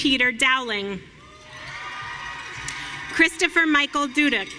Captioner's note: audience cheering